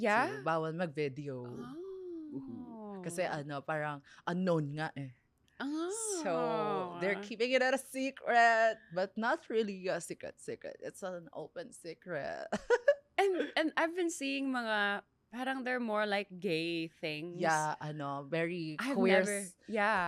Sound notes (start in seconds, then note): 12.3 laughs